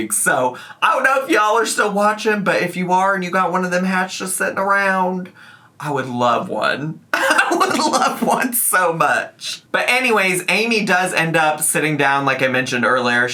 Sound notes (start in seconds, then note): 7.2 laughs